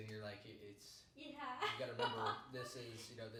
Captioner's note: laughing